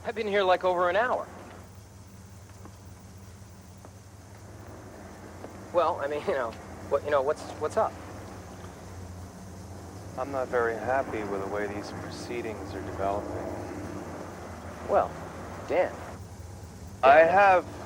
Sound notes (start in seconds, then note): none